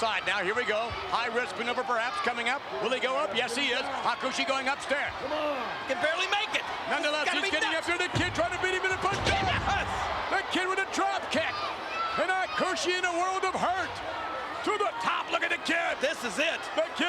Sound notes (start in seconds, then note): 7.5 Jerry mumbling